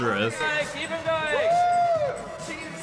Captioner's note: cheering